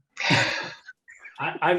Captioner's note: laughing